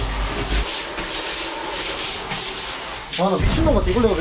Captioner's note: wiping hard